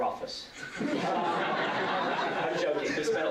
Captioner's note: laughter